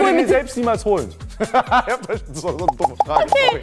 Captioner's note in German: Lachen